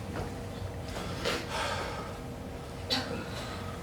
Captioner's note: Jacob sighs